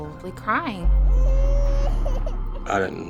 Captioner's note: crying